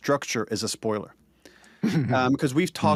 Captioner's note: chuckles